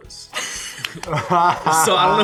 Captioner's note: all laughing